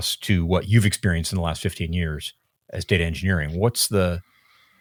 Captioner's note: none